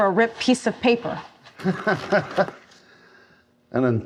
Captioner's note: laughing